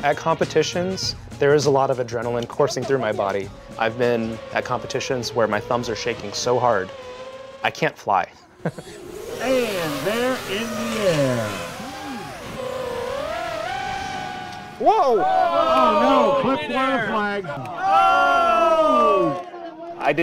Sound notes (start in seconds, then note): 8.4 laughs